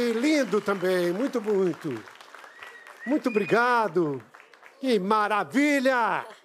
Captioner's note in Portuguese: aplausos